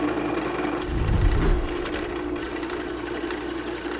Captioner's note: air whooshes